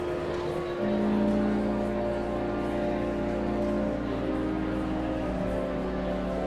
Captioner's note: sanguine organ music continues; audience chattering continues